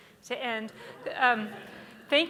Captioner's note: audience laughs